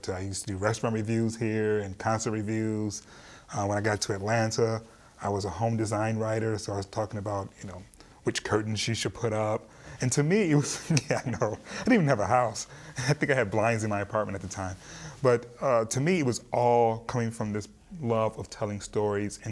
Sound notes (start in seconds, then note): 10.5 laughing